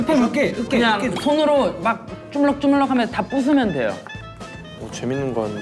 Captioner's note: Gugup